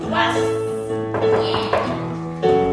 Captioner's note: knock, knock, knock